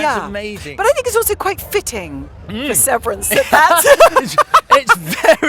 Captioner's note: laughs